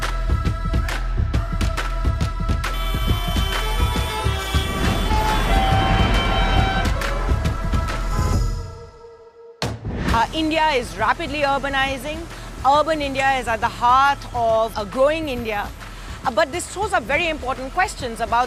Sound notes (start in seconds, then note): 2.7 cars honking; 5.7 cars moving